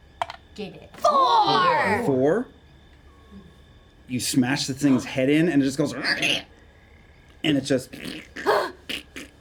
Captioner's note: squeal